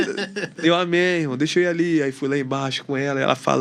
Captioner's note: risadas